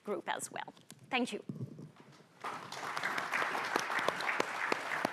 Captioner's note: audience applauding